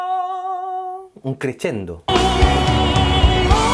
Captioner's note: in Italian